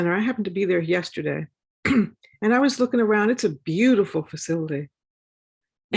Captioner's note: cough